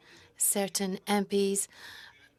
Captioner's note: speaking French